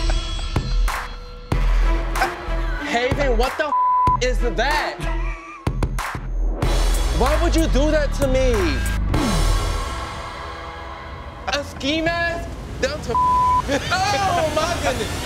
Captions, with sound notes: Haven, what the (beep) is that? Why would you do that to me? A ski mask? Down to (beep)? Oh my goodness.